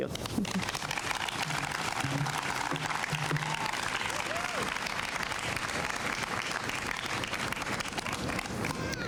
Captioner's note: applause